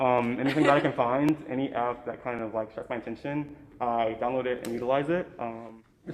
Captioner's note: sparks